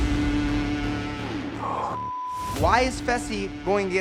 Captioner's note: beep